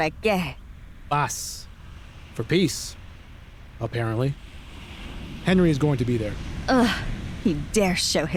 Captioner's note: in Spanish; in Spanish